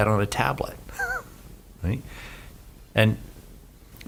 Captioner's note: he laughs